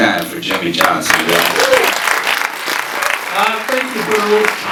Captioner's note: audience cheering and applauding